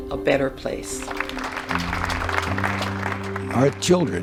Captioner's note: audience applauding